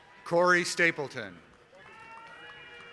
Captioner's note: applause